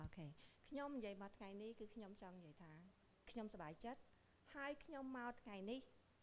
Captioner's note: speaking in foreign language